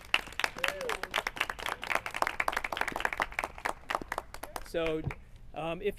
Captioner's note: clapping